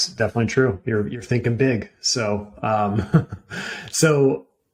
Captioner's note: chuckling